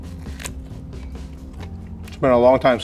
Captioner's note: mouth squelches